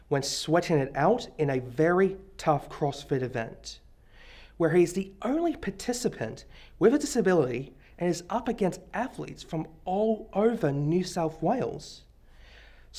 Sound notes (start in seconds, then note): none